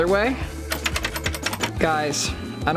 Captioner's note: lock clicking